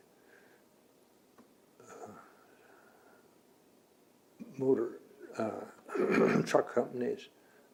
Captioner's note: clears throat